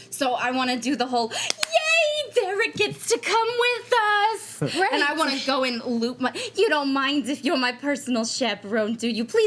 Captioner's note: none